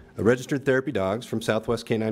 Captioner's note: none